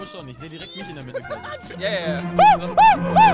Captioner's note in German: Huuh